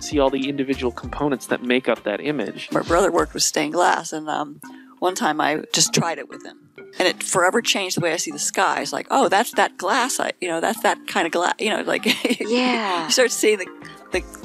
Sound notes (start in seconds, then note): 12.0 laughing